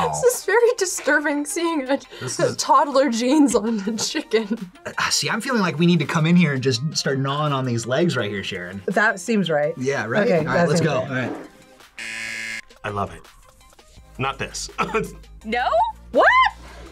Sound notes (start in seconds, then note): 12.0 buzzer; 14.7 chuckles